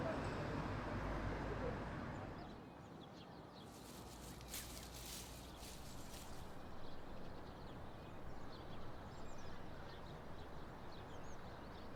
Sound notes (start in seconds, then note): 2.8 birds chirping; 3.6 leaves rustling